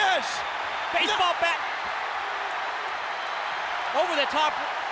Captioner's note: audience cheers